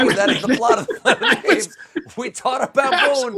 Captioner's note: laughter